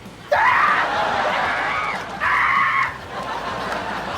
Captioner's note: man screams; audience laughs